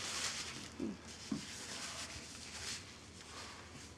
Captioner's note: Isaac chuckles